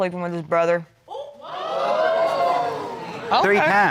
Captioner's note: crowd gasping